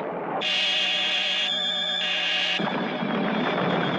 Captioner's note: lasers blasting